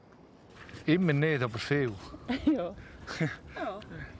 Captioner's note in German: Lachend